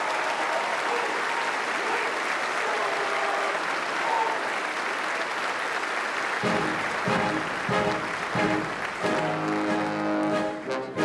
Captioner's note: applause